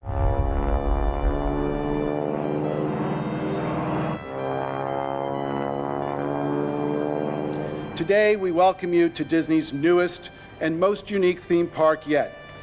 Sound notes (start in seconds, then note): 0.0 prop plane engine noise